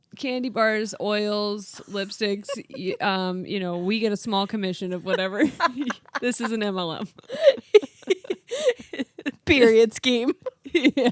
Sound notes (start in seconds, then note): 7.7 laughing